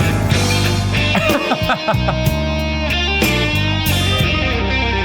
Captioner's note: laughing